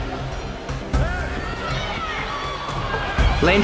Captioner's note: crowd Yelling Widly